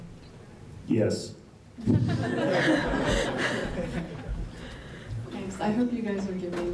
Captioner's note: laugh